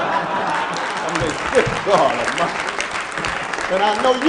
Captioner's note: laughing and applause